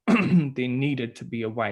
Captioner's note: clearing throat